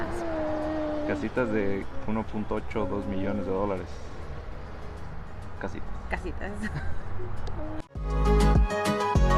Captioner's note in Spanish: risas